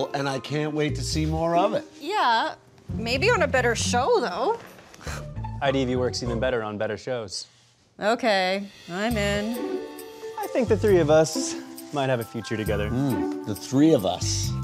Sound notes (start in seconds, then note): none